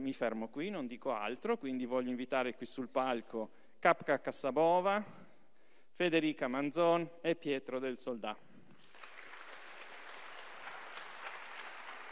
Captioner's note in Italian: Applauso